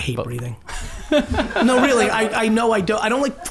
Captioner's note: group laughs